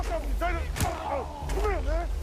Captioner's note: man on knees yells